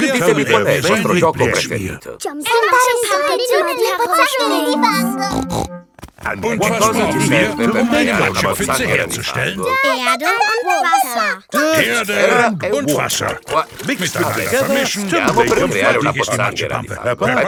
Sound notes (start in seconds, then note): 5.2 snorts